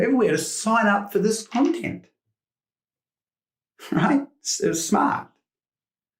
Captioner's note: chuckles